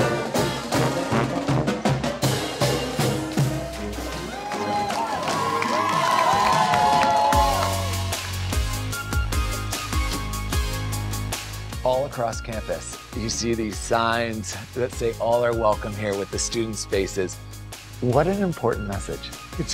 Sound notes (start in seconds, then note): 0.0 upbeat marching band music; 3.3 students cheering; 7.2 upbeat music